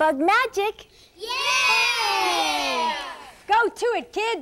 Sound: cheering

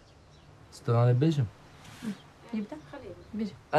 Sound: speaking foreign language

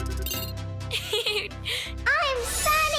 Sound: laughing

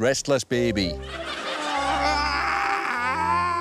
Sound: whimpers and babbles

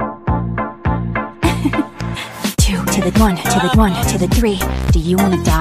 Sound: giggle

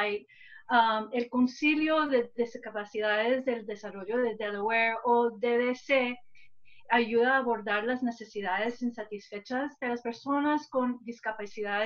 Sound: speaking spanish

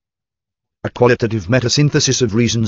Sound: computerized Voice

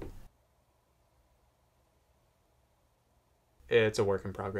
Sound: silence happening

